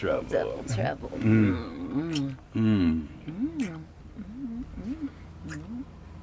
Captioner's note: lips smacking; both moaning